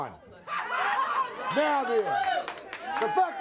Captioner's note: crowd chatter